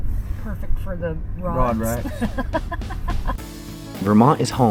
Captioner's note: laughing